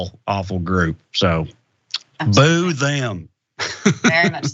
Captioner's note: laugh